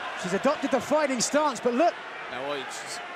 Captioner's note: crowd chatter